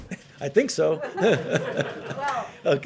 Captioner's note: laughter